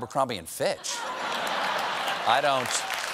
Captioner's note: applause